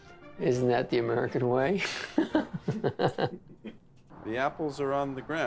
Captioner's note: laughs